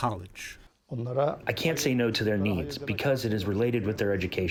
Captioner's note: through translator